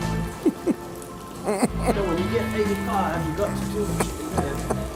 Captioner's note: painful struggling